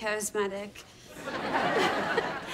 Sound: chuckling

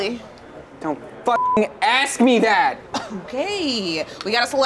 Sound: beep

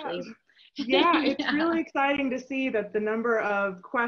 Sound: chuckles

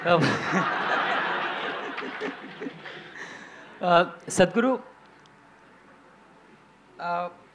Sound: laughter; laughter

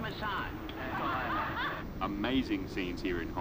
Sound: laughing on TV

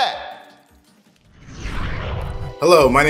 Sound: whooshes

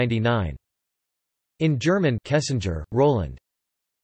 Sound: in German

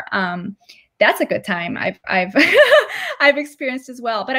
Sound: laughter

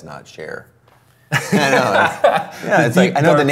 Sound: both laugh

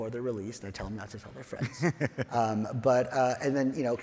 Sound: laughs

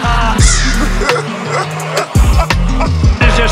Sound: scary slow motion laughter

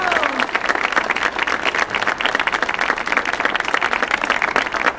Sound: audience applauding

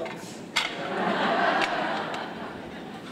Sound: laughter

